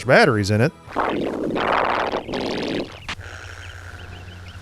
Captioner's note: warbled